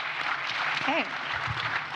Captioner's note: audience applauds